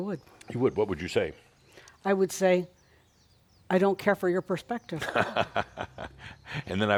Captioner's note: Adamus laughs